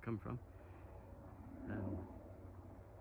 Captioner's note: over helicopter noise